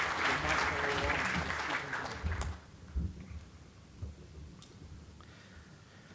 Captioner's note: audience applauding; speaks faintly